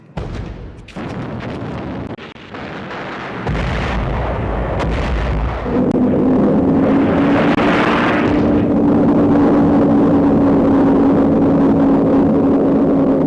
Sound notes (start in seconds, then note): 0.2 explosions booming; 6.3 planes roaring